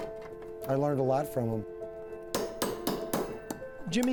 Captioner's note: hammer clanging